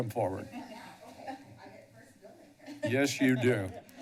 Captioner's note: laughter